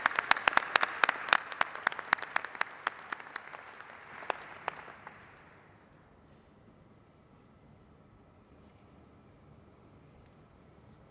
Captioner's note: applause